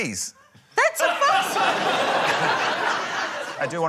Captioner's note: laughter